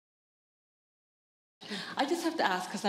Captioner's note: pause